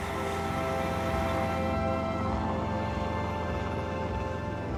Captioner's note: helicopter whirring